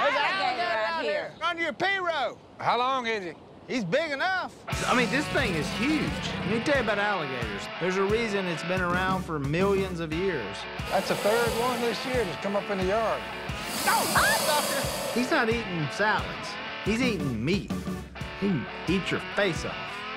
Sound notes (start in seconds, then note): 13.8 screams